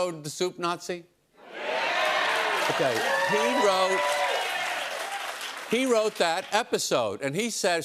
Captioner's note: cheers and applause